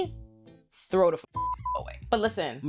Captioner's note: beep